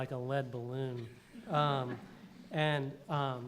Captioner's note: laughter